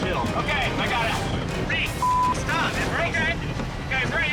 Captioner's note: beep